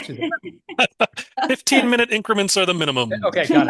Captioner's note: laughs